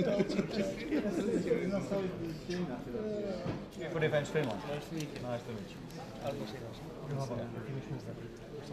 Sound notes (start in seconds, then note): 0.0 laughing; 1.4 speaking in foreign language